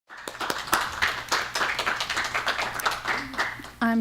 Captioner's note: applause